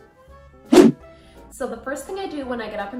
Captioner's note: whoosh